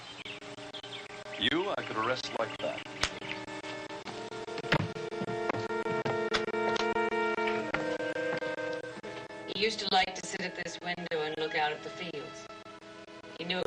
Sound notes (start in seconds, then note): 6.7 snapsps fingers